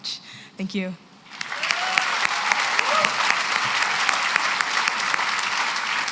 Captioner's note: cheering and applause